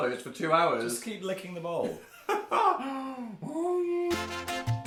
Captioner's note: crying